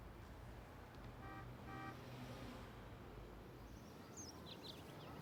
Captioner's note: distant horn honking; birds chirping